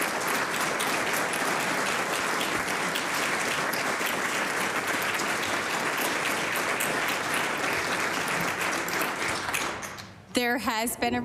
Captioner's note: applause